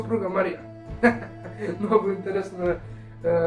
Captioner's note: laughing